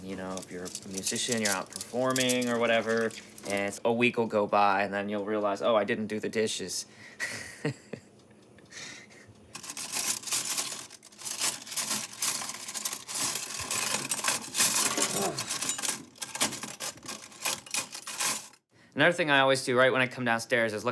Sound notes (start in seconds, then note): 7.9 laughing; 10.0 clinking